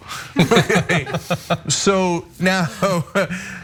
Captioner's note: laugh